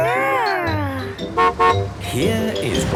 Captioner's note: horn honking